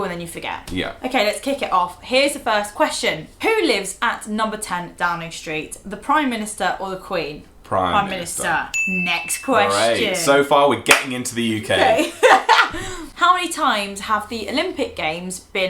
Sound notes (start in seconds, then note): 8.7 ding; 11.7 laughter